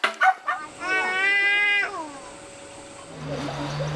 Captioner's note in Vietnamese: khóc